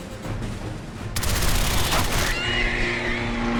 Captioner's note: dramatic music; turrets firing; creatures screeching